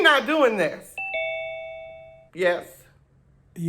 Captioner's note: ding sound